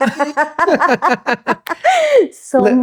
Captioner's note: both laugh